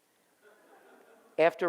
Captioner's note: audience laughs